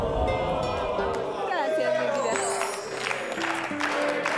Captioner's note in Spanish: Exclamaciones